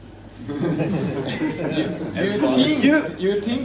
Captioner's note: laughter